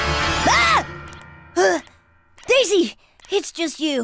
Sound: gasp

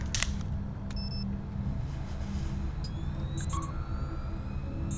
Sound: camera beeping

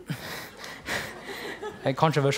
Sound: laughter

